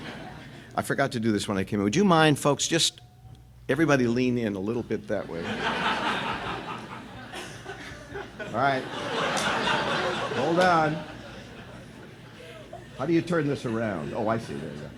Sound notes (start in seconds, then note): 5.2 laughter